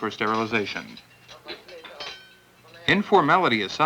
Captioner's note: metal clanking